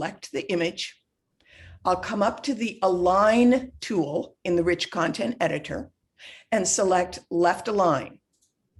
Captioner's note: gasps